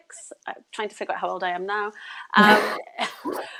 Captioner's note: both laugh